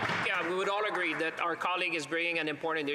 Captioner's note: applause